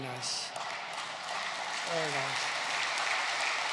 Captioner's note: applause